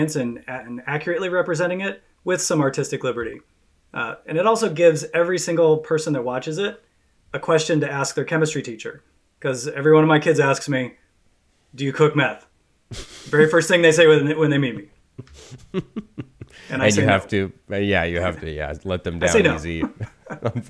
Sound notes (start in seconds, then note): 15.2 laughs